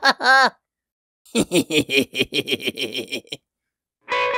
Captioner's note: evil laughter in Alien